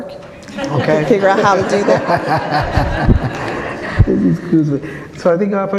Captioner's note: audience laughs